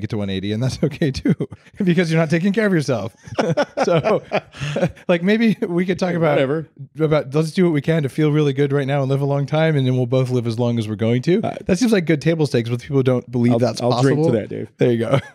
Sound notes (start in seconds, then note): 0.8 chuckles; 3.1 laughing